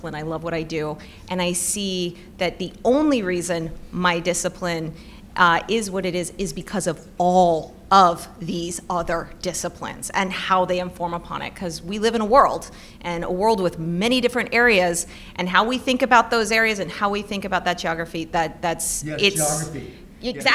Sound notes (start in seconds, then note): none